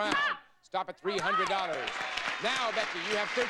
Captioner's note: audience applauding